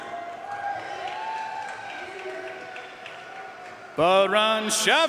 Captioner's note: audience cheering and applauding